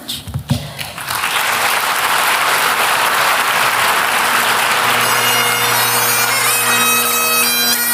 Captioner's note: applause